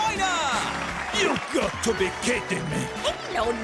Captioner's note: applause